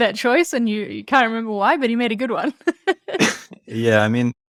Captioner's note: laughs